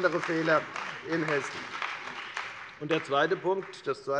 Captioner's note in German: Beifall bei der FDP und bei Abgeordneten der CDU